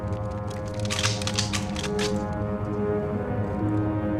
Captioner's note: clicking